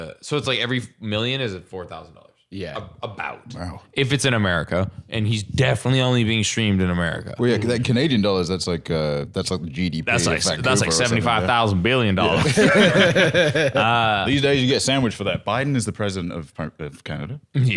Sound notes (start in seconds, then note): 12.2 all laughing